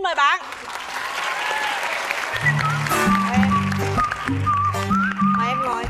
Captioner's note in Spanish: Aplaudir